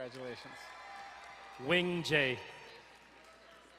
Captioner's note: crowd cheering and applauding